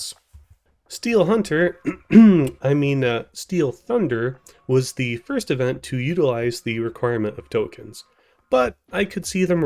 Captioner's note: cough